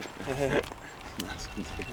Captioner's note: chuckles